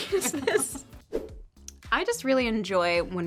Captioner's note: graphics swoosh